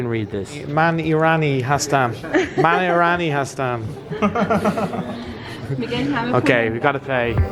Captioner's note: talking and laughing together